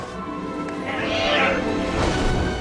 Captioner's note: squawks